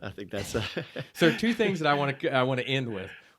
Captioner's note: laughing